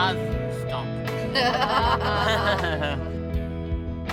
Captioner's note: laughter; slow music